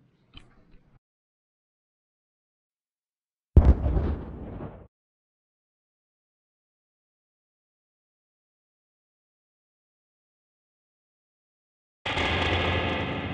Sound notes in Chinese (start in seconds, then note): 3.6 爆炸声